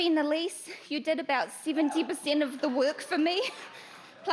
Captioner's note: cheers